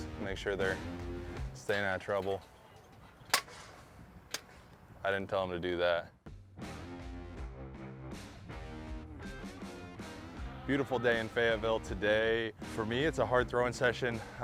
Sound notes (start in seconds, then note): 3.4 discus hits pole